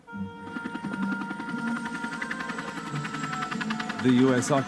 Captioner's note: soft music; helicopter whirring